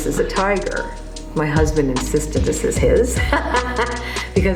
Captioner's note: laughs